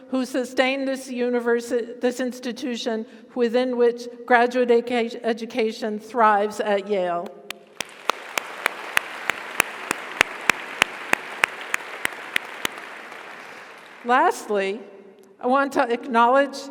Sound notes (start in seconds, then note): 7.5 audience applauds; 7.8 audience cheers